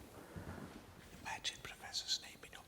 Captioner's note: whispering